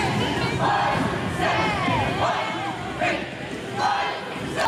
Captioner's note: cheerleaders chanting